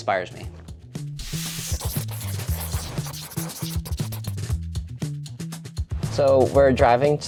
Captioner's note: pencil scribbles; upbeat music continues